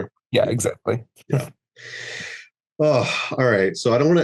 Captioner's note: heaves a heavy, heavy sigh